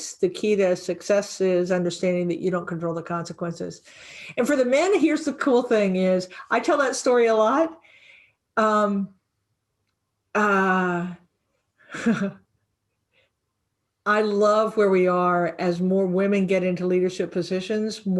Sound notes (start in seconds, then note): 11.7 laughing